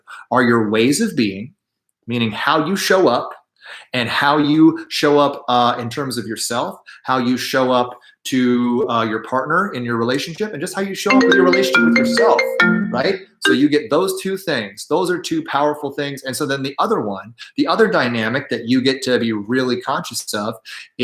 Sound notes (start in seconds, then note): 11.1 phone rings